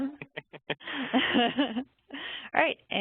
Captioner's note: chuckles